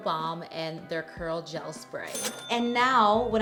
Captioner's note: bell dinging